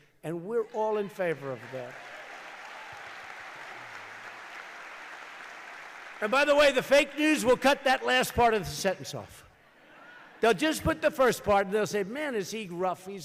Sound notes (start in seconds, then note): 4.4 applause; 9.3 laughter